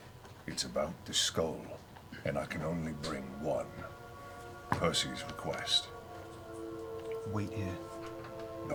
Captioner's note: quieter